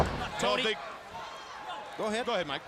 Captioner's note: crowd cheering